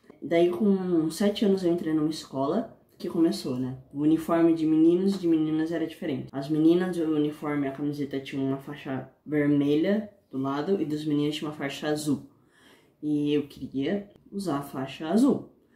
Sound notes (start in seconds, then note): none